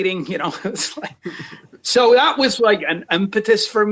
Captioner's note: chuckles